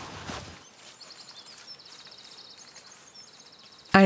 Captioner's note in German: Vogelzwitschern